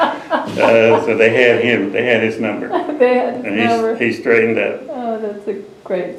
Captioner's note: laughter